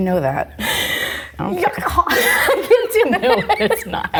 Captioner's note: laughs